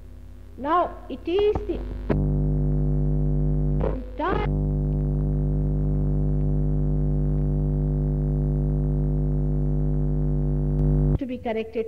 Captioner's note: noise in mp3